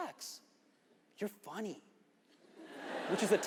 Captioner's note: audience laughs